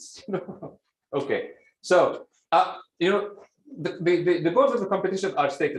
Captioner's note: laughs